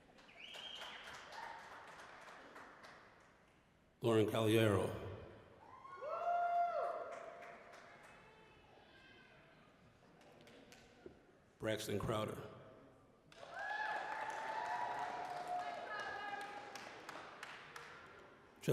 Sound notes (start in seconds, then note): 0.0 applause, whistling; 5.7 audience cheering; 13.3 applause, cheering